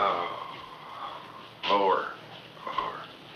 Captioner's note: moans